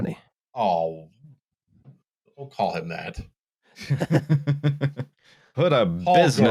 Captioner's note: laughter